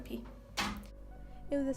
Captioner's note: door closes